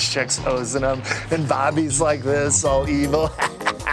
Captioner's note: evil laugh